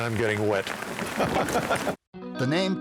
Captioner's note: laughing